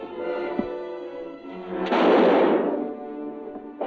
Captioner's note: gunshot